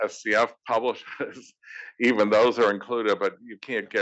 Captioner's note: laugh